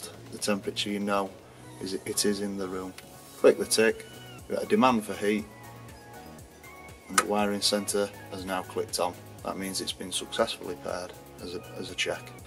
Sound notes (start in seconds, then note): 7.1 click